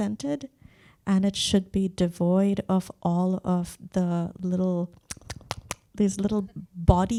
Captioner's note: lips smacking